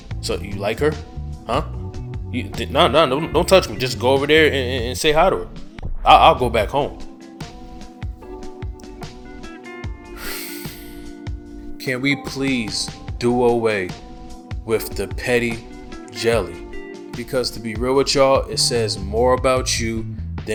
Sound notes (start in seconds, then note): 7.4 serene music; 10.1 sighs